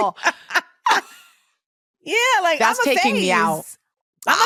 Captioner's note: laughs